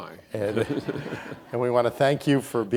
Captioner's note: audience laughs